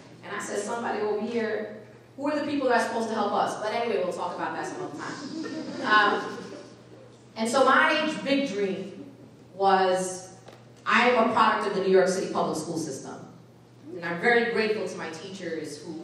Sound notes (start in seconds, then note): 4.9 audience laughing